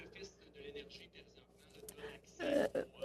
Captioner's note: speaking in French